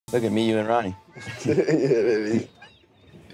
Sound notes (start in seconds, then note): 1.1 laughs